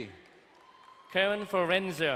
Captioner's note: distant cheering